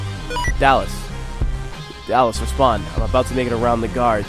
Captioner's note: on the Radio